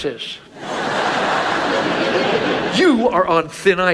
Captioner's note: audience laughs